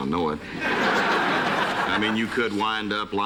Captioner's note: laughter